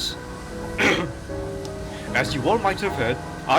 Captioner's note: clears throat